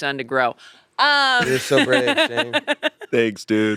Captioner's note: laughs